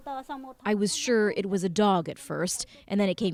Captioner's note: speaking Foreign Language